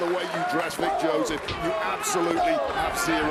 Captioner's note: crowd cheers